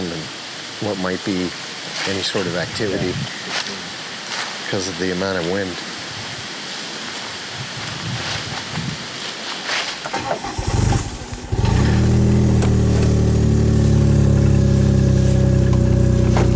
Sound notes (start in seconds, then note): 7.5 wind whooshing; 10.1 engine rumbling